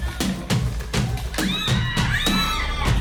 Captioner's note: screams